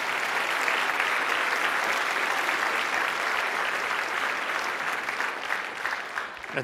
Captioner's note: applause